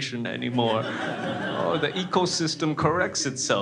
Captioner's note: crowd laughs